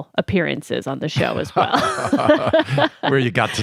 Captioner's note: laughs